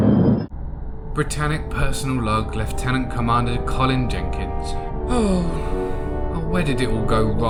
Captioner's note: sigh